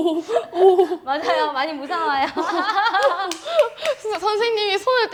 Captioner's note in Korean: 웃음